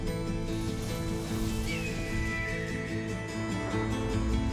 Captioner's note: hawk screeches